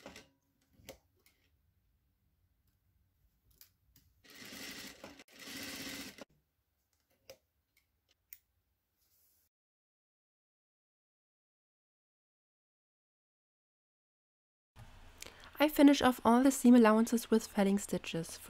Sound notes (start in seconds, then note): 4.2 sewing machine sounds